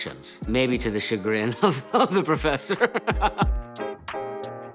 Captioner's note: laughs; smooth music continues